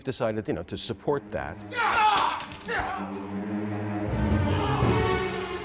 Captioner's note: groaning in anguish